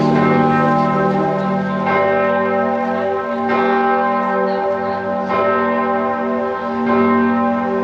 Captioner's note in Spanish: se escuchan campanadas